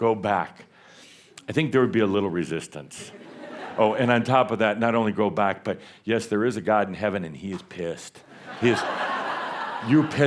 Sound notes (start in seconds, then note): 3.0 more laughter; 8.3 laughter